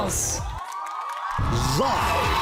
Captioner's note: applauding, cheering